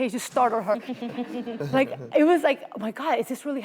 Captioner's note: audience laughs